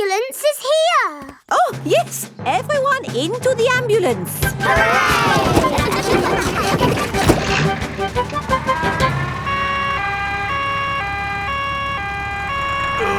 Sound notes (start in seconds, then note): 4.5 giggling; 10.1 siren wailing